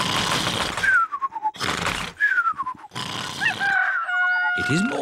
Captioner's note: cockerel crows